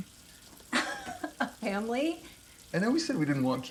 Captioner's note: laughing